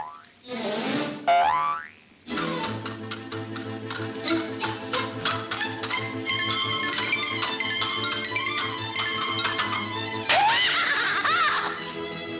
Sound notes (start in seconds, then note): 0.1 stingers popping; 2.3 stingers clicking